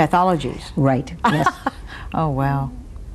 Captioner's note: laughs